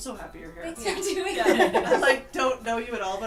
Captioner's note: laughter